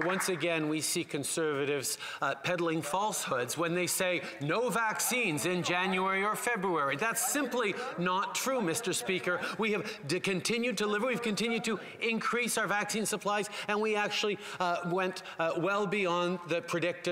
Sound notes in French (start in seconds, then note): 4.9 voix de l'interprète